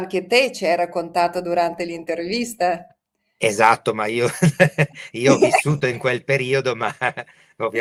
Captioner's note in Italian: risate